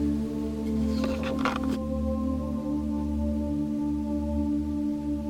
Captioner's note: object rustling